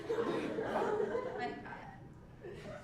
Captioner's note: laugh